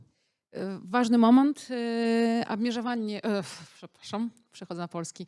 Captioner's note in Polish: białoruski